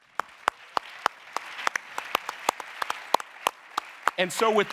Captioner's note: audience applauding